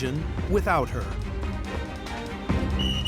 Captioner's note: whistle blows